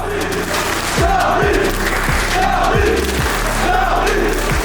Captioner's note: chanting